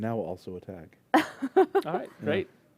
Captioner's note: laughter